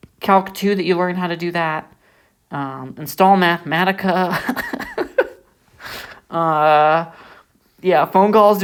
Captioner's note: laughs